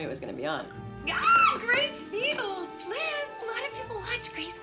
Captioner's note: squealing